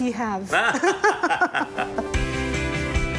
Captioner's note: laughing; guitar strumming